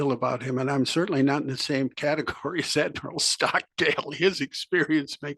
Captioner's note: laugh